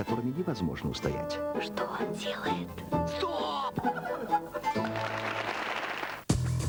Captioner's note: applause; energetic music